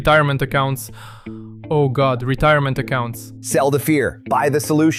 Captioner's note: gasps